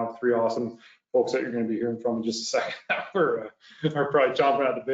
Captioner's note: laughs